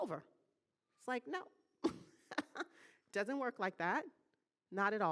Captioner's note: laughing